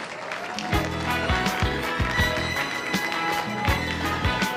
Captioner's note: applause